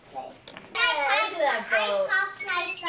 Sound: background chatter

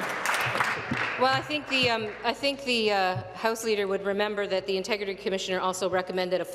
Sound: applause

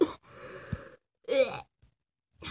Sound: cough

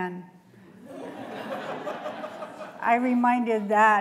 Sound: laughter

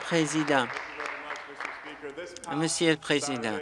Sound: applause; cheering

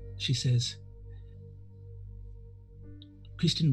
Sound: none

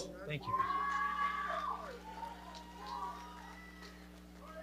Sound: audience cheering

